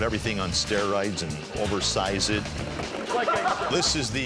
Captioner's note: guys laughing